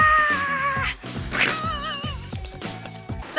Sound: laughter

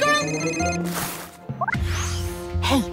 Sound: phone ringing

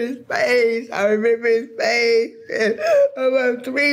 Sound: gasping

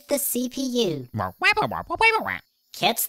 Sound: squawk

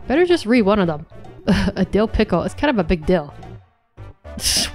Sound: chuckles

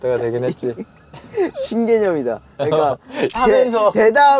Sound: haha

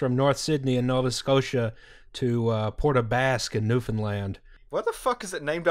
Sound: suddenly outraged

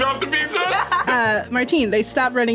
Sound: laughs

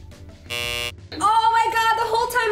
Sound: buzz

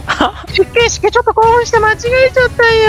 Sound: laughing reax

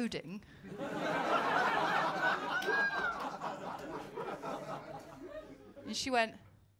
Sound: laughter

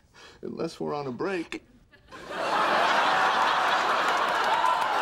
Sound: audience laughing

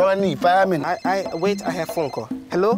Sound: phone rings

